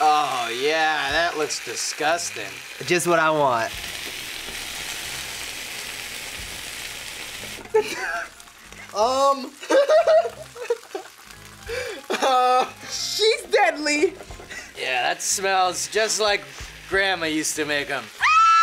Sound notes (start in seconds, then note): 4.7 iron sizzles; 9.5 laughs; 18.2 screams